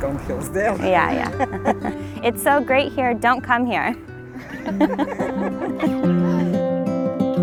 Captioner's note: laughing